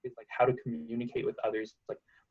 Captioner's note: voice crackling